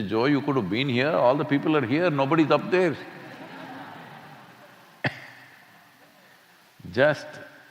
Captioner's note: laughter